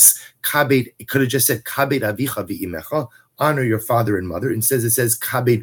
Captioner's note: Hebrew